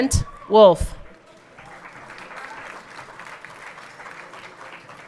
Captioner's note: everyone clapping